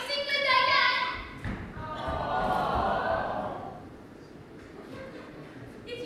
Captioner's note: awwwww